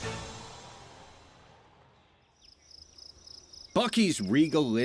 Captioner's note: chiming sound